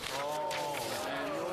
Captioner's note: speaking French